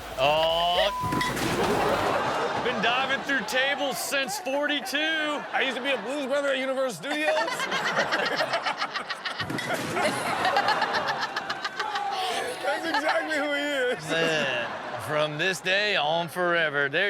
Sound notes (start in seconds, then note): 1.0 table crashing; 7.7 all laughing; 9.9 Chanel continues laughing; 10.0 crowd cheering